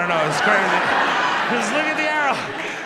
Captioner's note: audience laughs